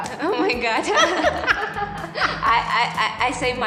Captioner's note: both laughing